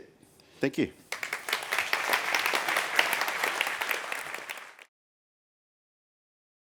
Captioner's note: applause